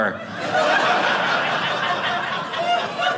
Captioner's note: audience laughing